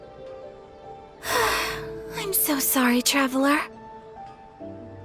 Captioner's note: sigh